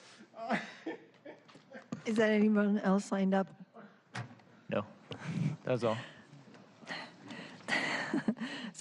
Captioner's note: laughter